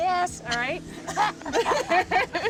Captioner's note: laughter